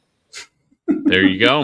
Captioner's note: laughs